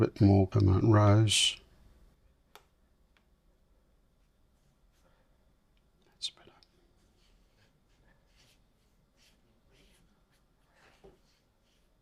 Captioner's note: silence